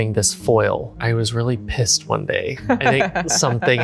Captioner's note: laughs